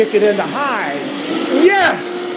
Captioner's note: blender whirring faster